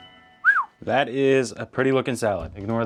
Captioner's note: whistling